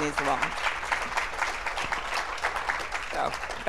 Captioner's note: applause